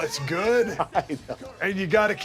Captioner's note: laugh